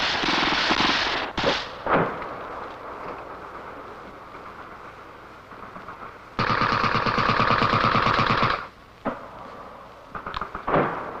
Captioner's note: gun shots